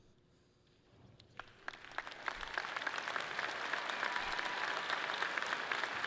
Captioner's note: audience clapping loudly